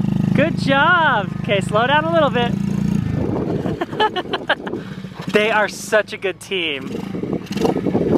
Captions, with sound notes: Good job! 'Kay, slow down a little bit. (laughs) They are such a good team.